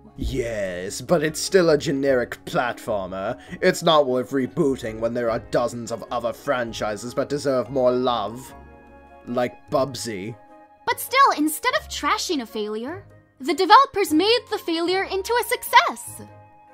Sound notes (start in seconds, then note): none